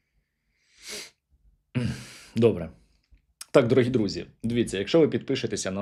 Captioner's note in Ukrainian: сопіння